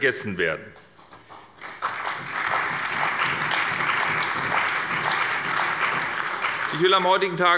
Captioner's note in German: Beifall bei der SPD, der CDU, dem BÜNDNIS 90/DIE GRÜNEN und der FDP